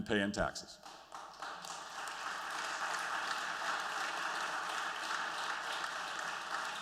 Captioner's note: applause